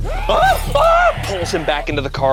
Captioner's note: screams